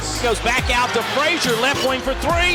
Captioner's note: voiceover